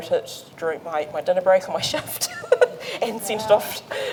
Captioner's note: laughs